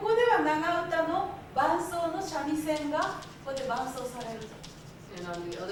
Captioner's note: speaking Japanes